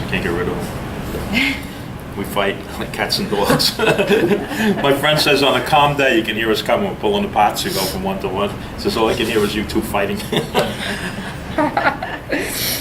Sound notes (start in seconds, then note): 1.5 both laugh; 3.2 laughs; 10.1 laughs